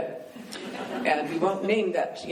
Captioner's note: laughing